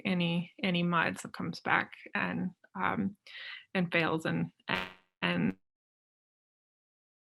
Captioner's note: audio blurs